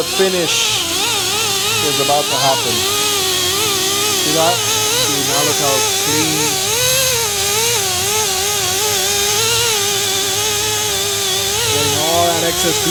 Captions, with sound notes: And the finish. (light chatting in background) (machine noise)